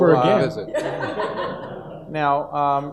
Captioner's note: audience laughs